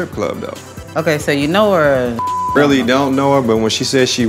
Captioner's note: beep